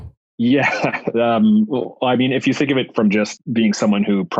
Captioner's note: laughs